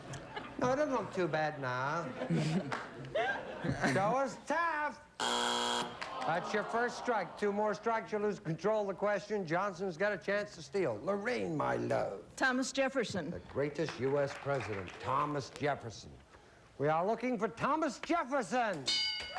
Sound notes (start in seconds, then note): 5.2 buzzer